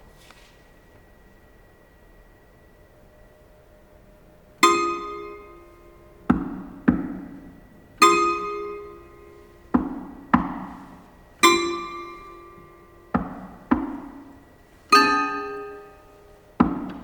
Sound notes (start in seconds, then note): 4.8 knocking; 4.8 placid toy piano music